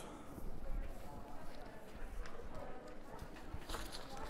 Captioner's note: crowd chattering